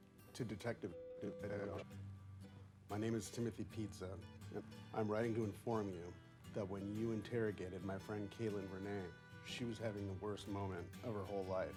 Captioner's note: glitching